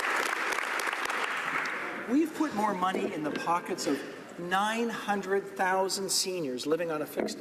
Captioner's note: applause